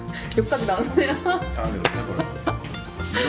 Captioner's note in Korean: ㅋㅋ